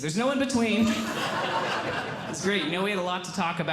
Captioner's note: audience Laughing